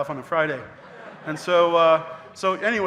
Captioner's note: audience laughing